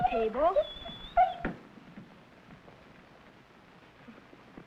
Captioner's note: Rebel whining